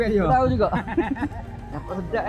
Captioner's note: laugh